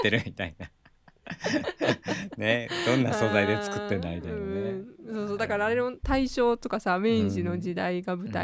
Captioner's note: laughs